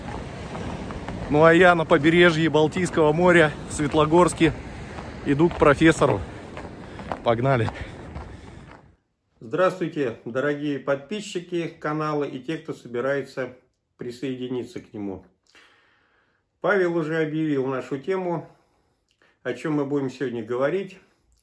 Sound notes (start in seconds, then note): 4.3 Rauschen